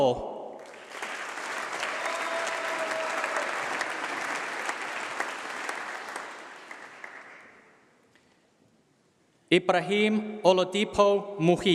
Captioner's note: applause